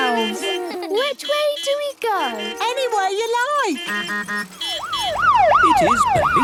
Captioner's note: laughter; honking, siren wailing